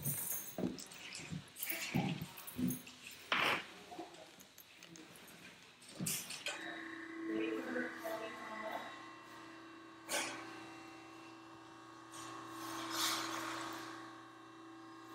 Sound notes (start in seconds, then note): 7.0 machine sound